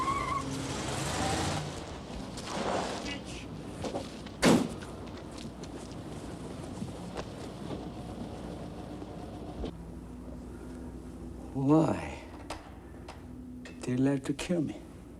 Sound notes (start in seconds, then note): 0.0 car engines revving; 0.2 tires screeching; 3.8 hood thudding; 6.9 car engines revving